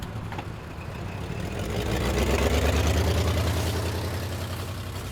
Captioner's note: van rumbling